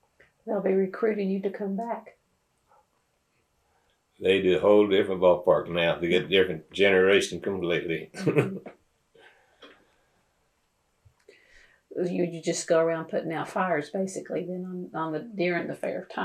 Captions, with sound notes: They’ll be recruiting you to go back. They are in a whole different ballpark now. They’ve got a whole different generation, completely. (Laughs) You just go around putting out fires, basically then, during the fair time.